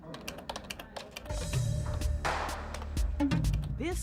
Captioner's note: computer keys click